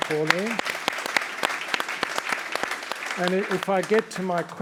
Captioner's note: all applauding